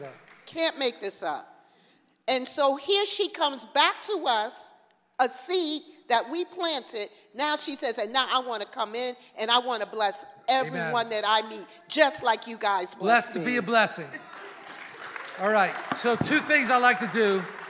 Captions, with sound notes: - Can't make this up, and so here she comes back to us, a seed that we planted, now she says, "And now I want to come in and I want to bless everyone that I meet... Amen. - Just like you guys blessed me. (laughs) - Blessed to be a blessing! (congregation applauding) All right, so two things I'd like to do,